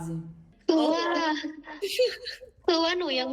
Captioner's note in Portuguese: risada